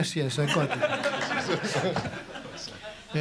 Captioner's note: laughter